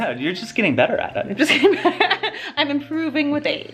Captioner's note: laughs